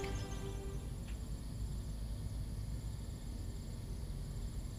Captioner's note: bugs chirping